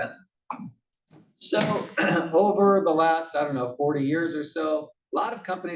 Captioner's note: cough